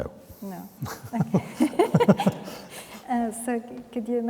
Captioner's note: both chuckling